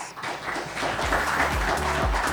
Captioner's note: group clapping; pleasant music